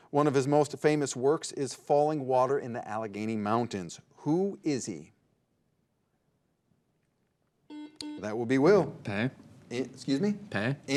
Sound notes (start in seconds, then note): 7.7 buzzer dings